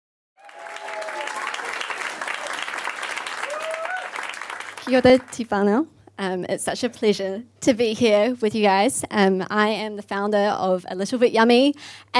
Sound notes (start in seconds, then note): 0.4 loud cheers and applause; 5.0 speaks in Maori